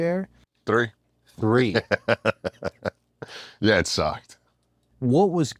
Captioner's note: laugh